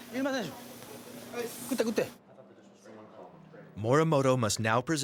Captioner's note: speaking in foreign language